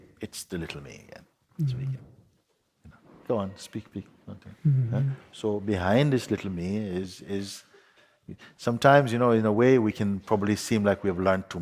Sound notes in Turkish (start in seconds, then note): 4.2 Soru soran hafifçe kıkırdar